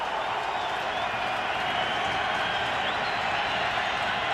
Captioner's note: cheering